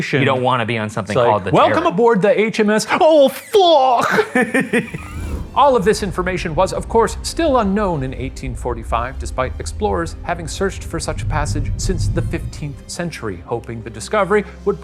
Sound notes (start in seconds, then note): 3.8 laughing